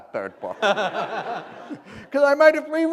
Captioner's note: laughter